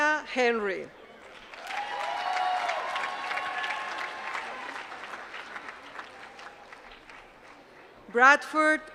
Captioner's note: applause